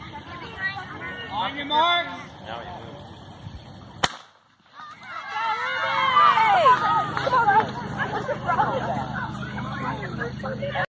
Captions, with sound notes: on your mark! (gun shot) (cheering) Go Ruby. Come on. (kids talking)